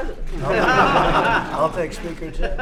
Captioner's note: laughter